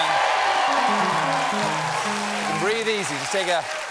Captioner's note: cheers and applause